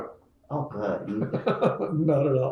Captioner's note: laughs